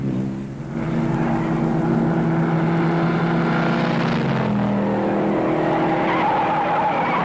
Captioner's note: engines roaring; tires squealing